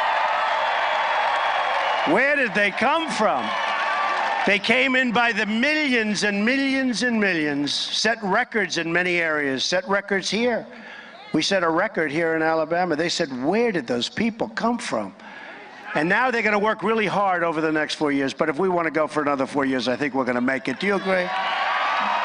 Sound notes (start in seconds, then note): 3.1 applause